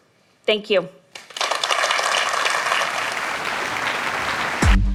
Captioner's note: applause